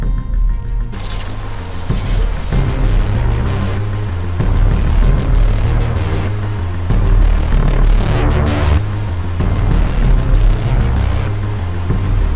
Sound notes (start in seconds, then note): 0.2 electricity crackling; 5.3 rain splashing; 5.3 thunder rumbling